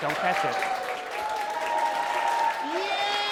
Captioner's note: cheering